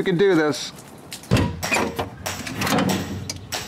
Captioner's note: upbeat music; hinge opening